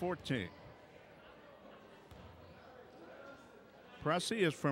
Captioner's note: crowd chattering